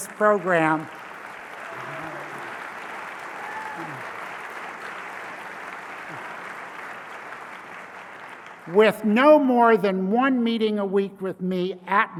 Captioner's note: applause